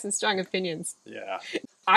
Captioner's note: laughing